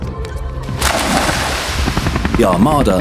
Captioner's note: water splashes